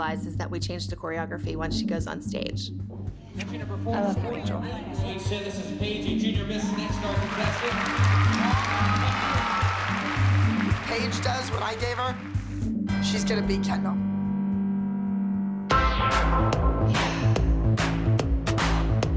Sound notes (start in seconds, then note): 8.8 cheering; 15.8 mid-tempo pop intro plays